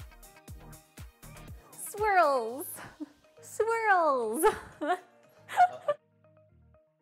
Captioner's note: laughter + brother mumbling